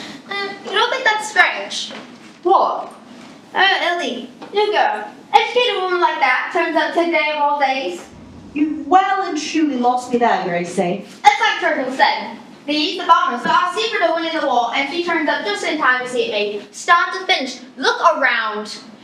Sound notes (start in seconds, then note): none